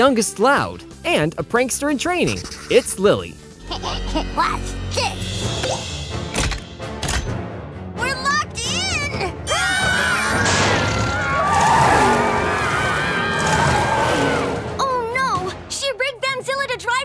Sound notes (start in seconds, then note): 3.6 chuckles; 9.5 screaming